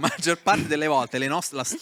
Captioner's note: laughing